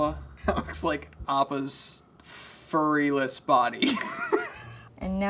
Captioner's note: laughing